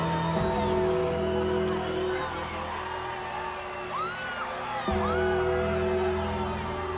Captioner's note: audience cheering; bells tolling